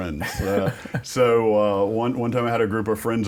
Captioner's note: laughter